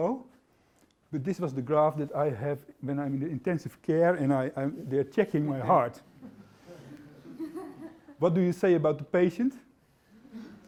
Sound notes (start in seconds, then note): 6.8 laughter